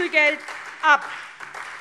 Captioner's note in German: Beifall